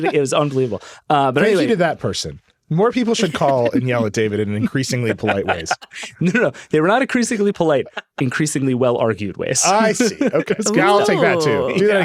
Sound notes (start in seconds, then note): 5.4 laughing